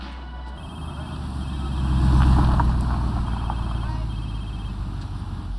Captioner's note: phone rings